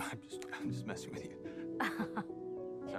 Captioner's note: chuckles